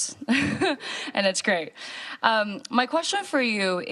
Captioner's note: chuckling